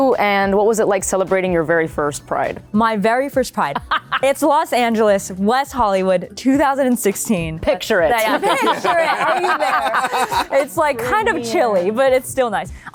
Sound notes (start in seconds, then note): 8.2 laughter